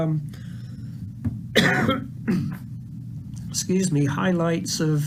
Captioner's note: coughs